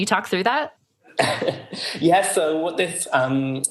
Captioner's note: laughing